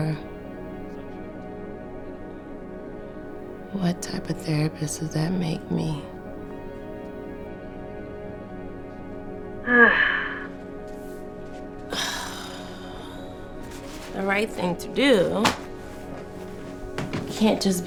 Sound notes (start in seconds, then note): 11.9 sigh